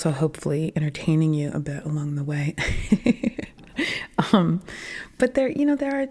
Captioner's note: laughing